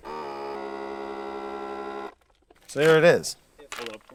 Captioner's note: machine buzzing